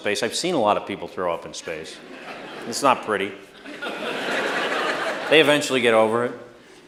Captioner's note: laughter